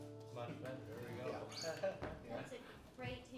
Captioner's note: chuckling